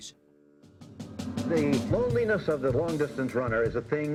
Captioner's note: man over TV